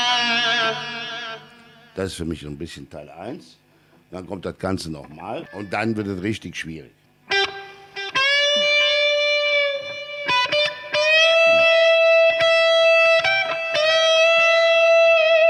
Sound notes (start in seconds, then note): 5.1 entrance tones